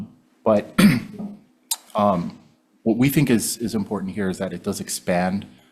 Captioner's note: clears throat